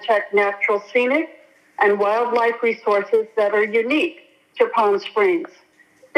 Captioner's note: speaking non-english